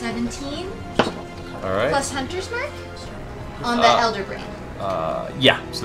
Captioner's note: none